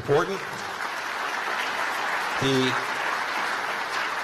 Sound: applause

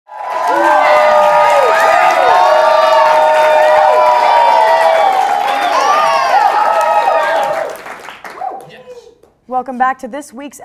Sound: applause

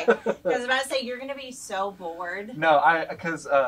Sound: laughs

